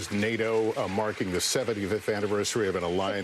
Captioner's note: applause